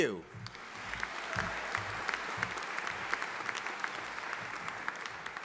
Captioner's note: audience applauding